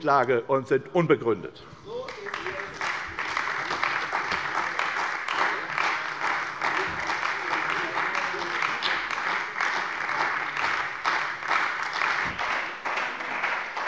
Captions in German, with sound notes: sind unbegründet. (Beifall bei der CDU und dem BÜNDNIS 90/DIE GRÜNEN)